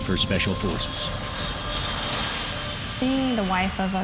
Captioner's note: airplane engines